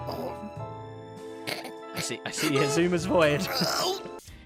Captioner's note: chuckles; chokes on laughter; snickers